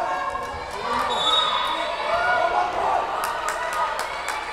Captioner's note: whistle blowing